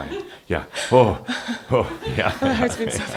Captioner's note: she chuckles